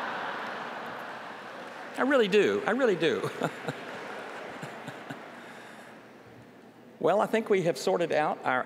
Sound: laughter

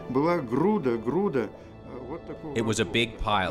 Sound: man speaking foreign language

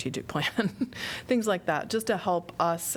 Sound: laughter

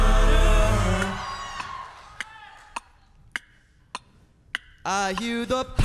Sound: mimicking clock ticking

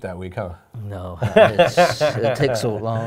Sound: laughing

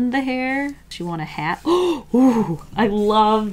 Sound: gasps

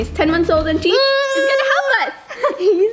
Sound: baby babbling

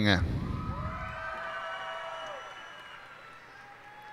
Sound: cheers and applause

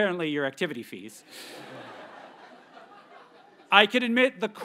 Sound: audience laughs

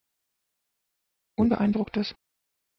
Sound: fast Pronunciation

